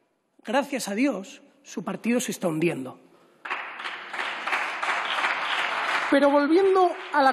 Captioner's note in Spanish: Aplausos